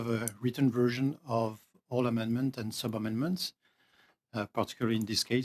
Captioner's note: speaking French